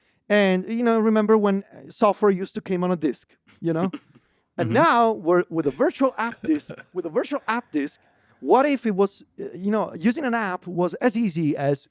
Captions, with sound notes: and, you know, remember when software used to came on a disc, you know? (laughs) And now with, with a virtual app disc- (laughs) With a virtual app disc, what if it was, you know, using an app was as easy as